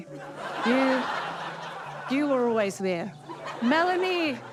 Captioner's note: audience laughs